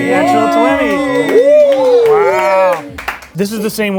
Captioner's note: all shouting